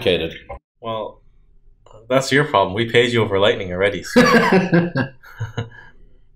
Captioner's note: chuckles